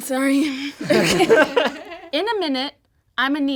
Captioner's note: all laugh